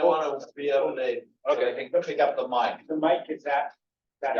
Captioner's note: speaks faintly